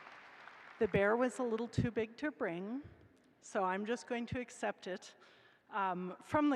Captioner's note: applause